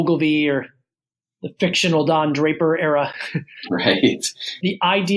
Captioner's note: laughs